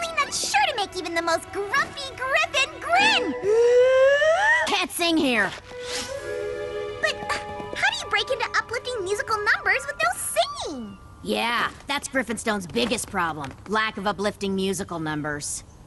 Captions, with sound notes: that's sure to make even the most grumpy griffon grin! [big inhale] You can't sing here. But how do you break into uplifting musical numbers with no singing? Yeah, that's Griffonstone's biggest problem. Lack of uplifting musical numbers.